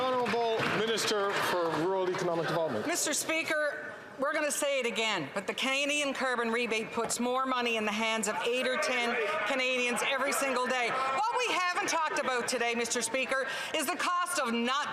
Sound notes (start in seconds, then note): 0.0 some Applause